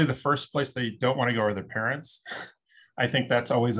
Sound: chuckles

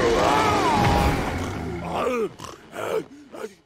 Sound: growling; snorting

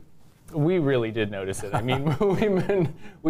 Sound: both laughs

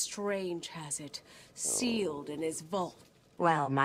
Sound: Selina's stomach growls

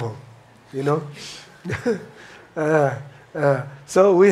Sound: chuckles

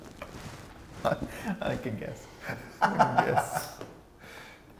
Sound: laughs

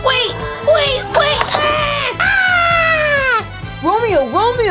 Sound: screams

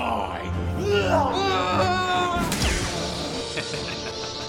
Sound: scream; lightsabers clash

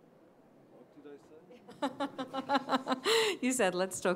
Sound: laughter

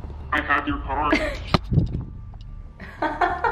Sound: laughing

